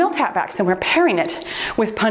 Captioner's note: timer beeps